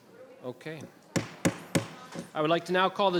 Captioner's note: gavel banging